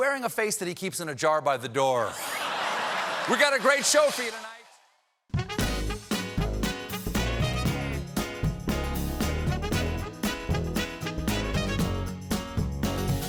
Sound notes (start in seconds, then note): 2.1 laughter